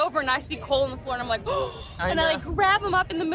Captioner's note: gasps